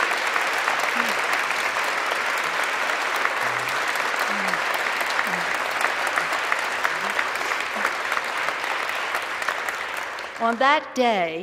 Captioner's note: applause